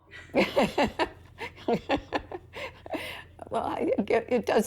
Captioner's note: chuckles